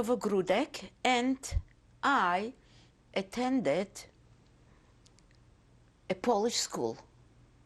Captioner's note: pauses for 3 seconds